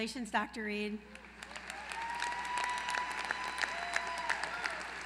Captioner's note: applause